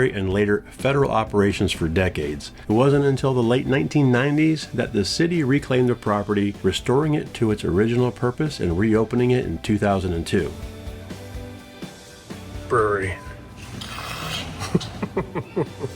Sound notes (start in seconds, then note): 14.5 laughs